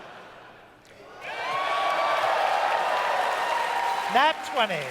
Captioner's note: audience cheers